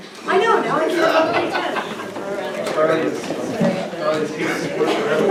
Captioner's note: crowd chatters loudly